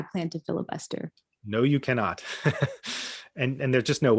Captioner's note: laughs